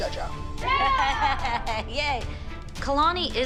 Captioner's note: laughs